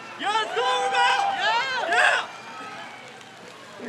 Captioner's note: crowd cheers